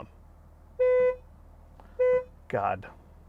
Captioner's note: car horn honking